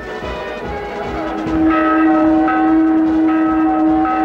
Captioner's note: bells ringing